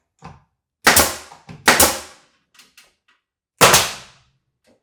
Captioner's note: nail gun popping; nail gun popping